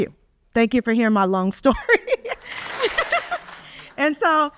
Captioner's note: audience claps